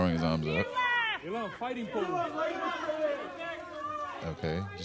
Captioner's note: photographers clamoring